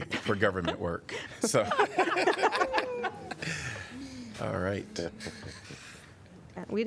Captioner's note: laughter